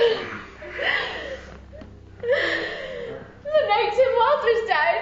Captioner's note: sobbing